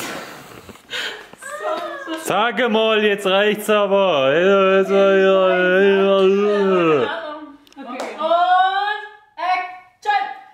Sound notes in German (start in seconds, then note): 0.1 alle lachen; 4.3 grölt rum